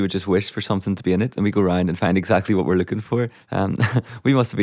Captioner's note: laughs